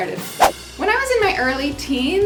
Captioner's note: whooshing